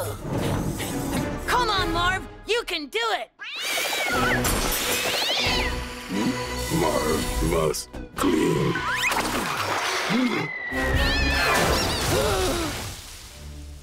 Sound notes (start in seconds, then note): 3.4 cat screams; 10.6 cat screams